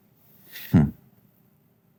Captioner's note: chuckles